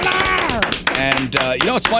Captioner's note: clapping